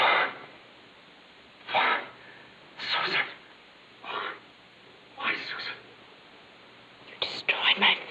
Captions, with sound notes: No. (sigh) Why, Susan? Why? Why, Susan?